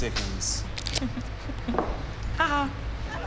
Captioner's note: chuckles